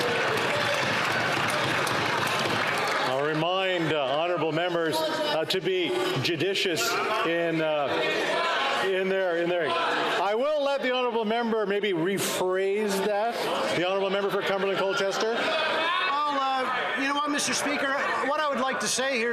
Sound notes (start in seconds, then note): 4.0 some Applause